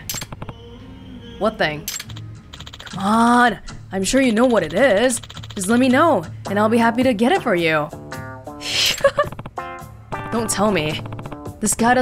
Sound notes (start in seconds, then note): 8.7 chuckles